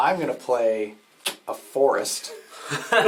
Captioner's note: all laugh